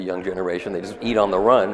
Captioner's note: audience laughs